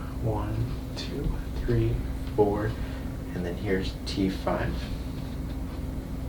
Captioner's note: none